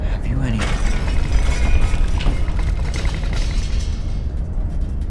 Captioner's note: loud rattling